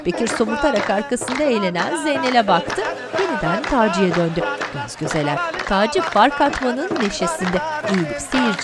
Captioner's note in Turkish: Alkış sesleri